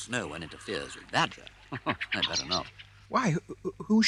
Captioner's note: chuckles